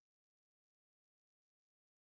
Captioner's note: speaking French